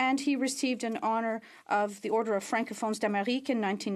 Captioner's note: speaking French